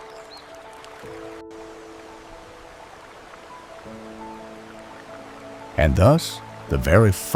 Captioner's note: water flowing